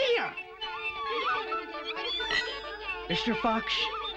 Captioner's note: happy chatter